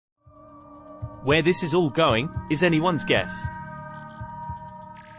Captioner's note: british male voice; suspense music